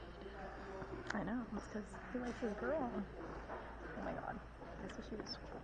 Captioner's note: teenagers whispering